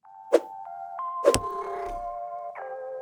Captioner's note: cat purrs